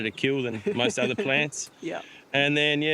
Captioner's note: laughs